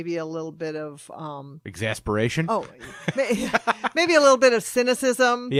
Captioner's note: laughs